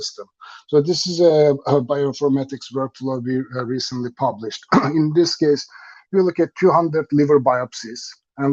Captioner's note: coughs